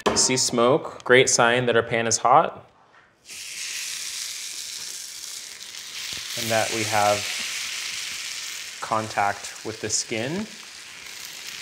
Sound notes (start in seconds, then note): 3.2 pan sizzling